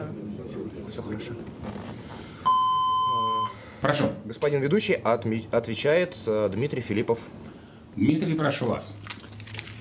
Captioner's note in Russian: колокольчик